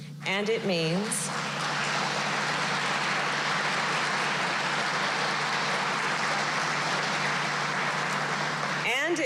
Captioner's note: applause